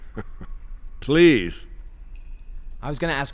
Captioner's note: laughs